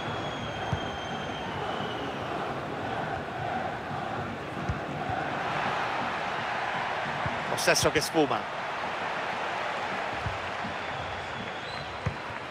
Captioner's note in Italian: Applauso